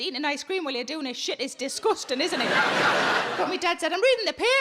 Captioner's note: audience laughing